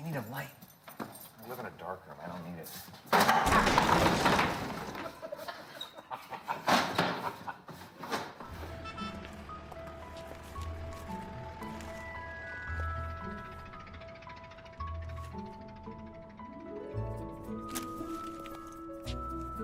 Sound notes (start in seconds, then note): 5.2 loud bang, clatter; 7.1 laughing